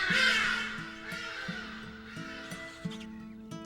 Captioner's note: echoes